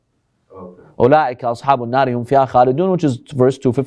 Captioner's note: Arabic